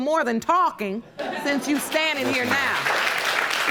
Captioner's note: audience laughing; audience applauding